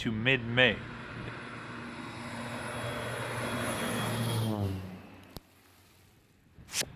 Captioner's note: plane flying